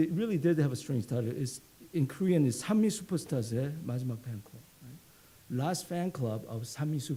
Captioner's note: speaks Korean